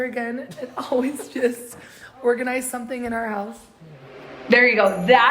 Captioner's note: laughs